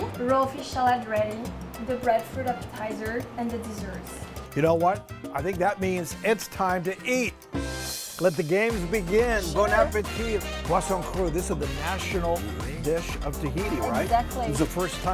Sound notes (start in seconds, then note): 10.6 speaks foreign language